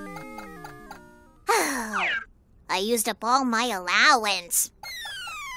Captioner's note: Sighing